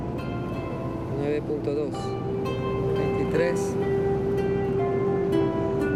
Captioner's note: speaking in foreign language